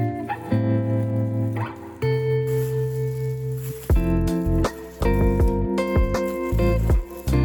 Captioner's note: soft wind